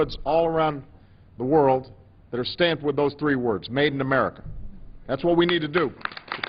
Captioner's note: applause